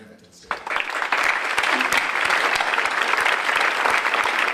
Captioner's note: audience applauds